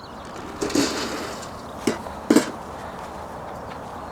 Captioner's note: sound of food pellets being dropped into trough